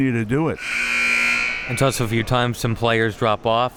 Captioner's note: buzzer blaring